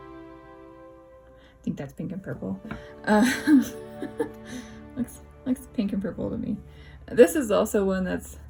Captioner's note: laugh